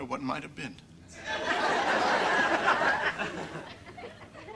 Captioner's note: audience laughter